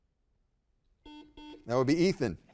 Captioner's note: buzzer buzzing